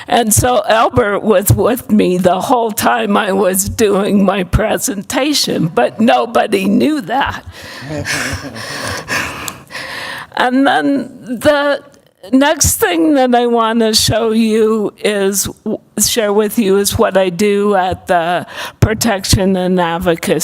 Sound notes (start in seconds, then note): 7.7 laughter